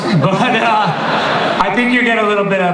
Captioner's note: audience laughter